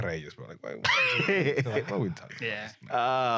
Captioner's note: laughing